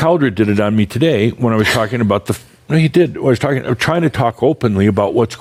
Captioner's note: chuckles